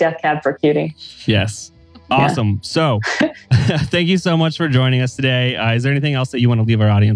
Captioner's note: laughs